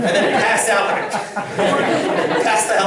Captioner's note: laughter